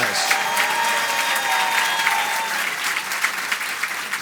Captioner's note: audience applauds